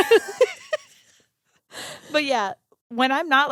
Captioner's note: giggling